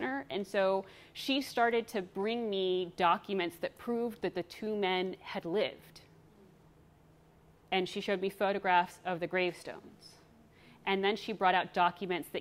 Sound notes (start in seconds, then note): none